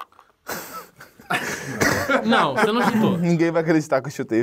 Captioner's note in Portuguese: risadas